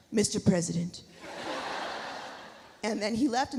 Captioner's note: audience laughs